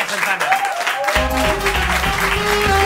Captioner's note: cheers